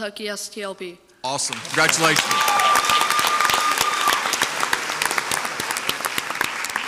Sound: crowd cheers and applauds

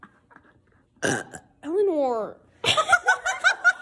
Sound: burps

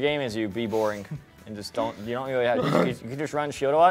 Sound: grunts

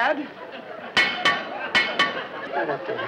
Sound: metal clanking; audience laughs

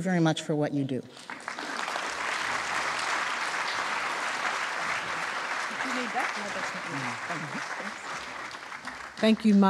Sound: applause

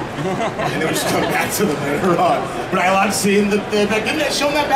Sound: audience laughing

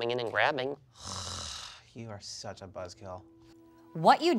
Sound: nasally groan

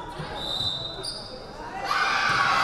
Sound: whistle blaring; crowd cheering

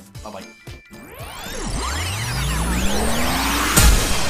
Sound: tape rewinding

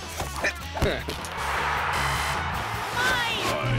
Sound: lively music; buzzer buzzing

